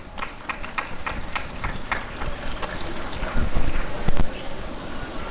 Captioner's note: applause and cheering